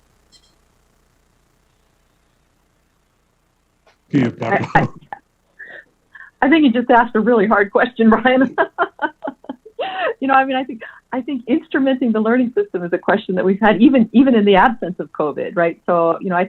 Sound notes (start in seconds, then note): 4.1 laughs; 7.7 laughs